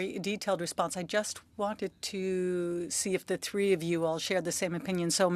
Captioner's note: speaking French